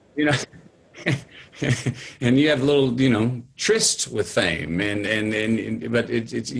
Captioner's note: laughing